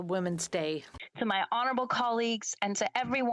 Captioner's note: speaking French